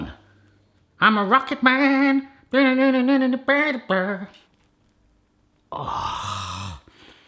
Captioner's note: humming